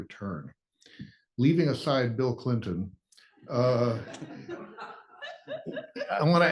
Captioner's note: laugh